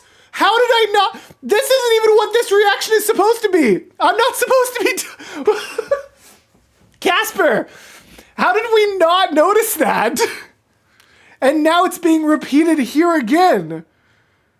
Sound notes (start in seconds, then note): 5.2 laughter